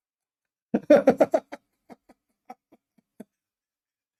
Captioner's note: Ketawa